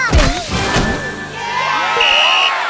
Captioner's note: blows whistle